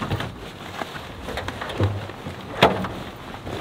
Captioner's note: soft thudding